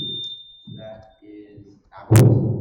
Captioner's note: bump